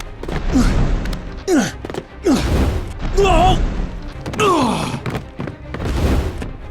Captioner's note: grunting